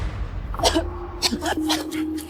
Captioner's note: coughing